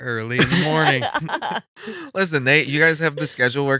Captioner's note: laughing